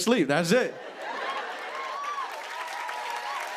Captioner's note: cheers and applause